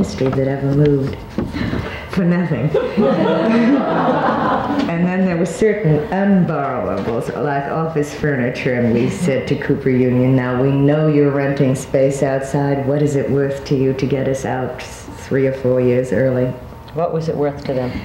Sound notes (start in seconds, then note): 2.7 all laughing